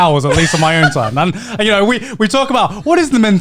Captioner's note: Joey laughing